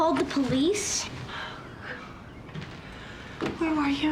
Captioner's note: sighs